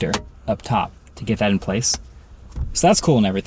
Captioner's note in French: clic du connecteur